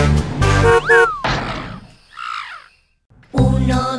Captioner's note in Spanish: Sonido de loro